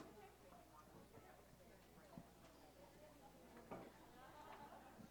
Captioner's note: chatter